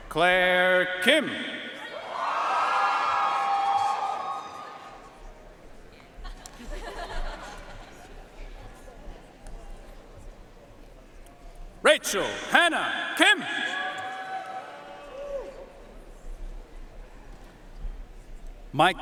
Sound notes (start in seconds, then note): 2.2 audience cheering and applauding; 6.2 audience laughing; 13.9 audience cheering and applauding